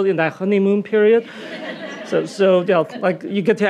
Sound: audience laughing

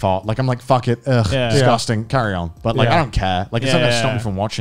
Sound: groans

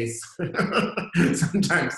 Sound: laughter

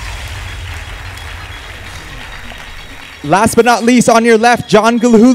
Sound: applause

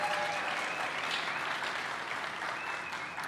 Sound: applause

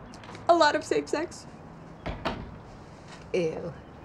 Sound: door clicks

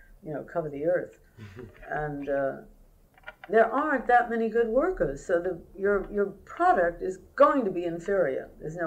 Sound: laughter

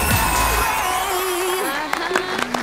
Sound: applause

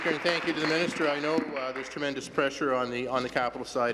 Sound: applause

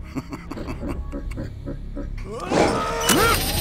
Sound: colonel and rock alien laugh

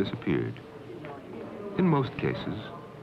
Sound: indiscriminate chatter

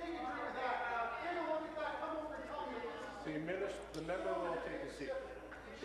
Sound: voice trailing

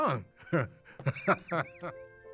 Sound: chuckling

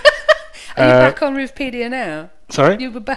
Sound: laughs

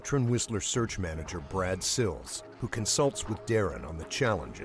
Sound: voiceover

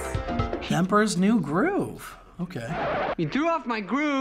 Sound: record scratch

